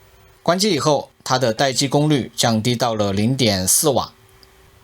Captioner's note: static